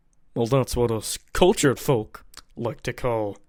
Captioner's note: lip smack